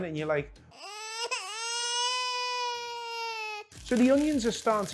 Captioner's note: baby crying